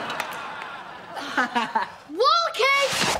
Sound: laughing

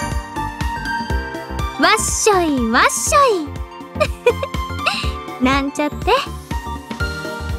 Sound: giggle

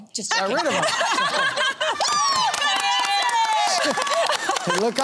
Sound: laughter

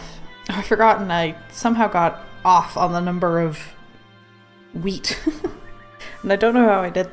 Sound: laughs

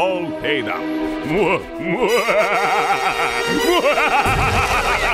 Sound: evil laughter

